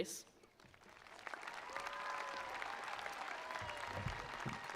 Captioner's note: attendees applauding